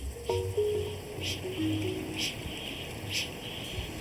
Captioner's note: kākāpō chinging